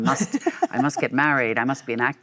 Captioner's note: Michelle laughs